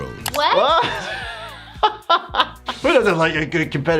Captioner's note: both laughing